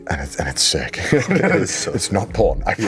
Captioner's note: both laugh